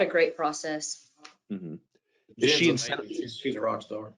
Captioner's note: group chattering